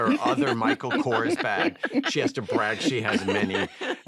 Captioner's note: laughter